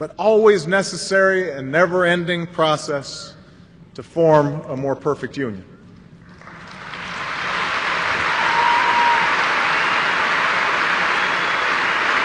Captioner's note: applause